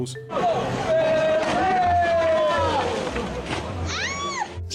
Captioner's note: people cheering; person screaming